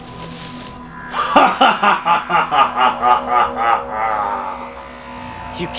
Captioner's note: evil laughter